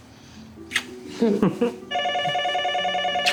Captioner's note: both chuckling; phone ringing